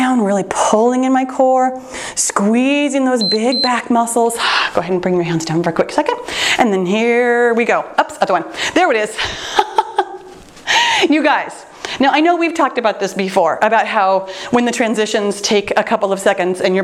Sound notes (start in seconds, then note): 3.2 timer beeps; 9.5 laughing